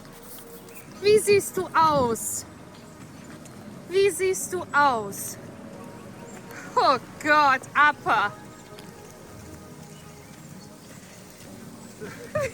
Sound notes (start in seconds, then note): 1.2 in German